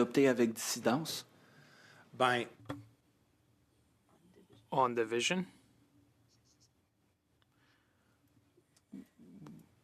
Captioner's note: speaking French